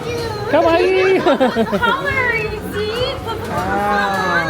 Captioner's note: laughing